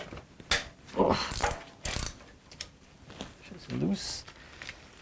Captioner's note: groans